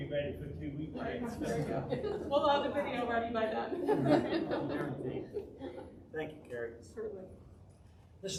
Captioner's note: audience--laughing